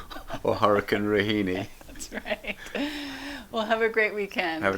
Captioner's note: chuckles